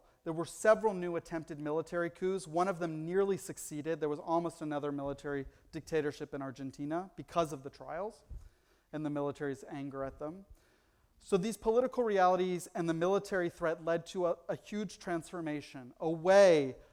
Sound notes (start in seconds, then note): none